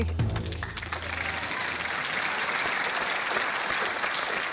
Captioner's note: applause